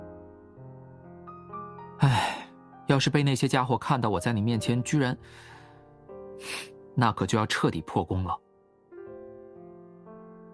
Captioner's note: sigh